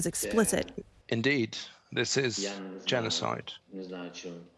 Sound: through translator

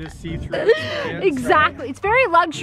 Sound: laughs

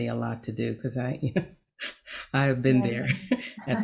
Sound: chuckles

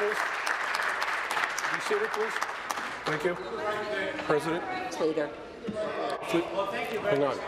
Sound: applause

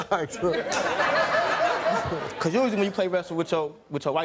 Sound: laughing

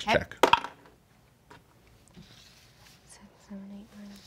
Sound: dice clatter

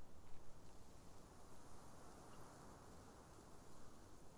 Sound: wind blows

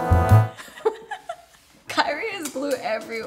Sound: laughs

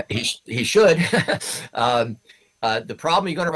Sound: laughs

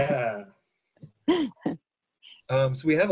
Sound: laughs

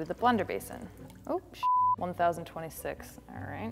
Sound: beep

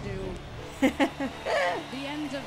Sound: excited laughter

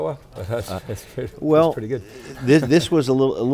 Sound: laughs

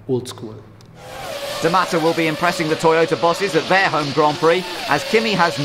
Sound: engine

